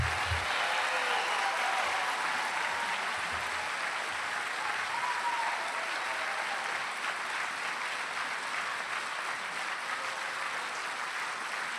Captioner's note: applause